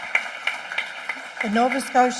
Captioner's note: applause